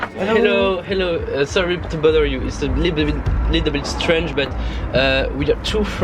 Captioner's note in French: bégaiement